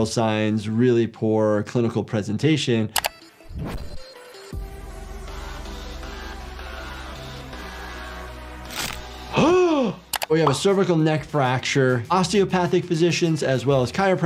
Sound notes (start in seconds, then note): 2.9 mouse clicking; 3.0 upbeat music; 3.2 air whooshing; 8.7 bones cracking; 9.4 doctor gasping